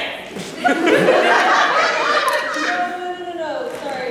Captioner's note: laughter